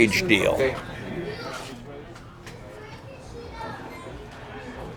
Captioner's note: children chatting